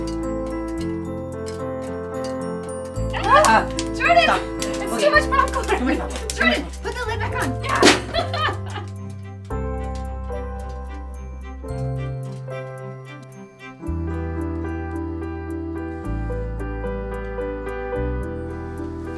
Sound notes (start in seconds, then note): 7.7 exclaiming, laughing; 7.8 both laughing; 8.0 popcorn popping